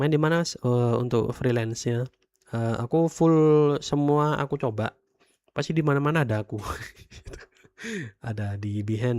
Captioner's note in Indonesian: tertawa